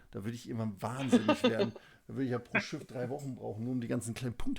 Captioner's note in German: gelächter